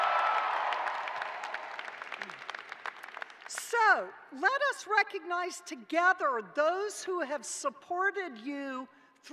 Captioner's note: cheers and applause